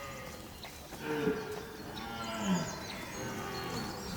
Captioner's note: stag roars